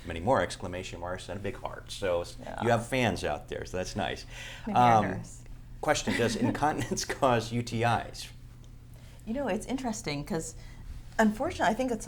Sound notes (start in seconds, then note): 6.0 laughter